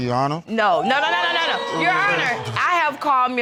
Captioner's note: audience gasps